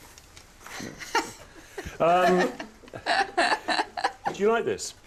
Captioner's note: laughing